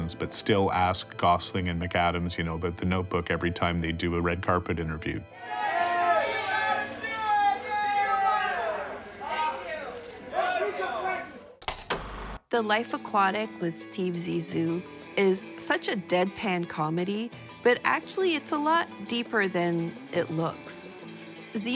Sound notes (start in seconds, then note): 11.6 film reel clicks